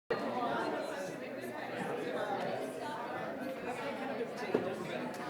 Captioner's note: audience chattering begins